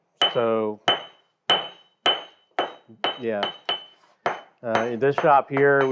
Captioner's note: metal clangs